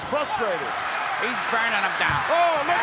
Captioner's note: audience cheering